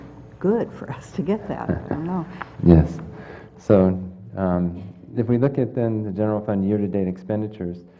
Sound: laugh

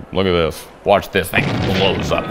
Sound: bomb blows up

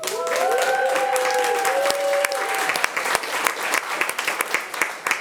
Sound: audience applauding

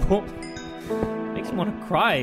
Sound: sniffle

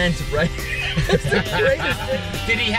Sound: laughs

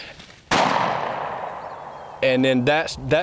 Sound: gunshot

